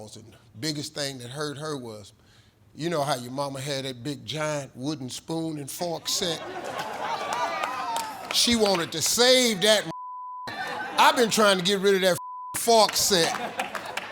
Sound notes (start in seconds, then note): 6.0 audience laughing; 9.8 beep; 12.8 beep